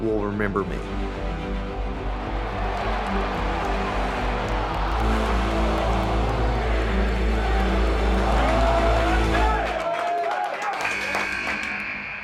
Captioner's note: applause